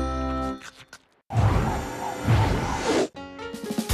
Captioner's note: whirring